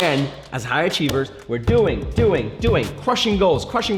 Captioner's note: fist thumping